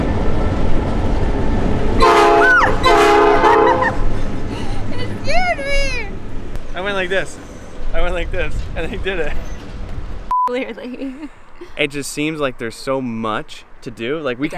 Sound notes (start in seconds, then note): 0.3 train on track; 2.3 screams; 3.2 laughs